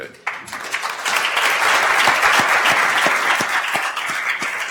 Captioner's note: attendees applauding